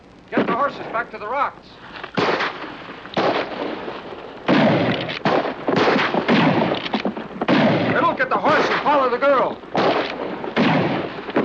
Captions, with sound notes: Get the horses back to the rocks! [gunshots] - [gunshots] - [gun cocking] Riddle, get the horses! Follow the girl! [gunshots]